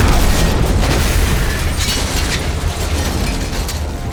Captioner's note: explosion